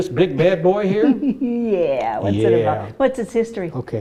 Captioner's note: chuckles